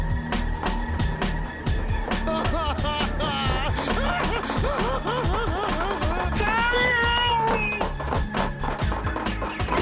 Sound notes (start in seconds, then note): 2.1 laughing; 6.3 screaming muffled